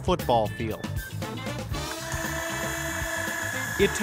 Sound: sprayer whirring

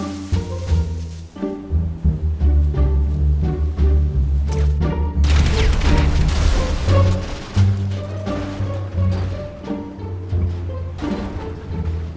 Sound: explosion

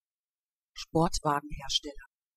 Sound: fast Pronunciation

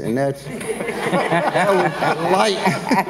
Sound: everyone laughs

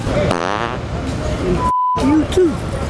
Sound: farting

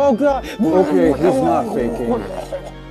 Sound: Starlow starts vomiting; Starlow continues vomiting

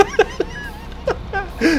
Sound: laughing

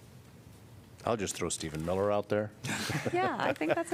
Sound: laughter

